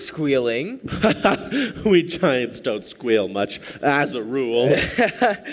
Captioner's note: laughs; laughs